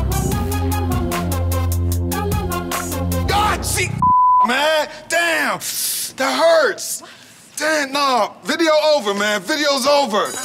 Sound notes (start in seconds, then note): 4.0 beep